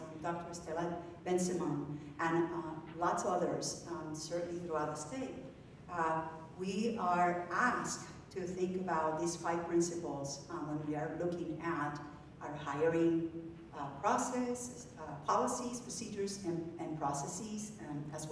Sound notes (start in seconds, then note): none